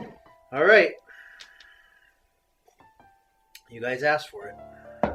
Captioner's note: sighs